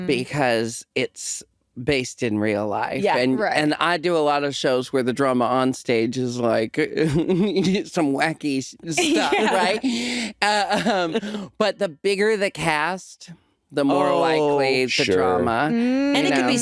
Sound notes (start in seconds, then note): 7.0 chuckles; 9.0 chuckles